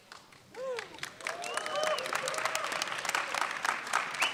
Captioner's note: audience clapping